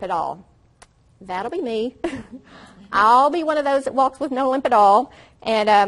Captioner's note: laughs